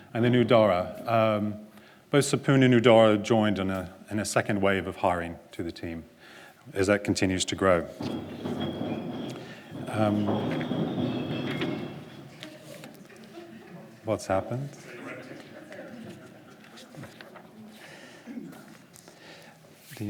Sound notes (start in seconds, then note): 7.7 glass crashing; 12.7 audience laughter; 16.9 audience murmuring